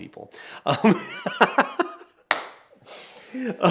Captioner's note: laughing